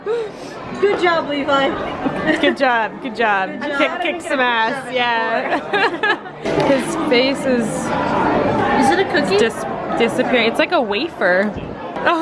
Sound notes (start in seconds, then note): 5.3 laughing